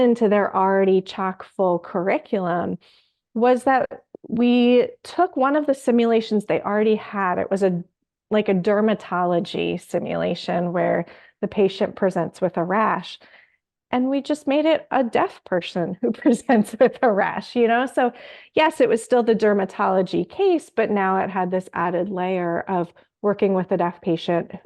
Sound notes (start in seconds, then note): 16.2 laughs